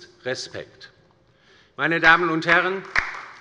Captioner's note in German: Beifall bei der LINKEN